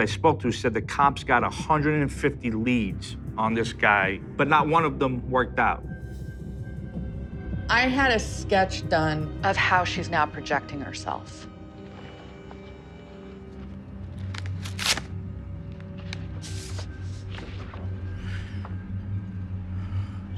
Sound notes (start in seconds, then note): 14.1 envelope opening